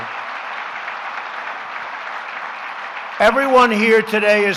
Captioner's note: applause